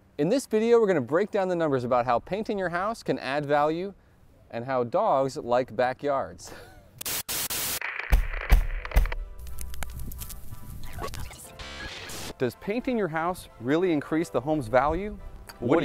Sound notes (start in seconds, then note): 7.0 static; 7.2 banging; 10.6 electronic interference